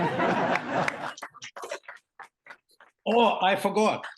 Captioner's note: laughter